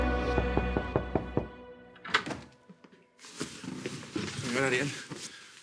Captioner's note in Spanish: Toques en la puerta